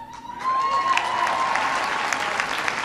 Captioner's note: applause